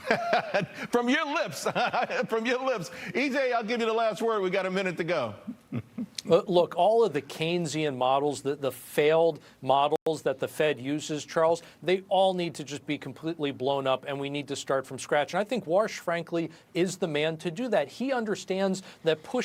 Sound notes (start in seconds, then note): 5.5 laughter